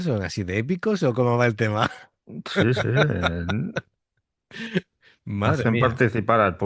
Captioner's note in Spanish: risas